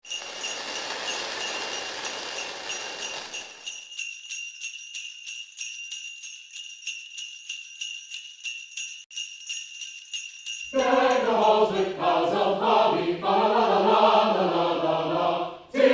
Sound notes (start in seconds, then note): 0.0 sleigh bells; 0.0 sparkler flares; 3.9 sleigh bells